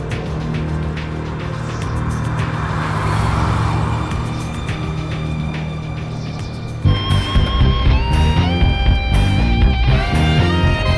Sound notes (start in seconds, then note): 2.9 engine rattling; 6.8 upbeat rock music